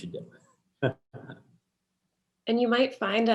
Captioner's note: laughs